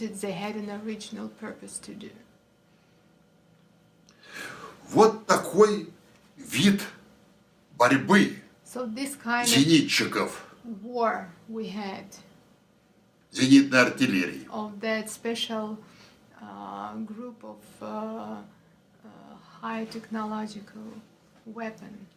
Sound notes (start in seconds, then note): 2.6 foreign language